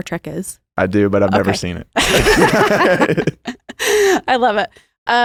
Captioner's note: both laugh